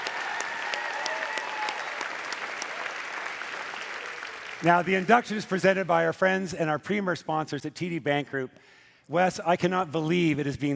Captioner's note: cheering and Applause